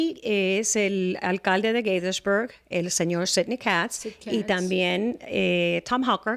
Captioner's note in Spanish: Hablando ingl\s